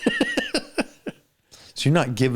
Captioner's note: laughter